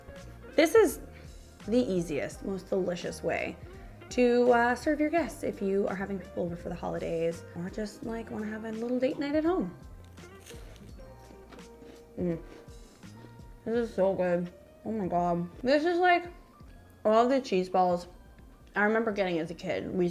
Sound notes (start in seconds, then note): 12.1 moans